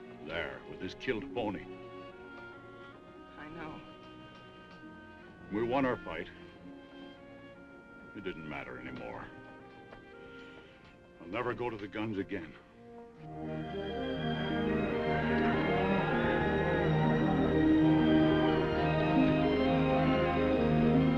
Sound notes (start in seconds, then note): 4.4 gentle music; 10.2 gentle music; 13.5 gentle music; 15.9 cows mooing; 18.4 gentle music